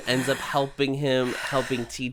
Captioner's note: sighs